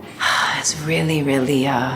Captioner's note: sighs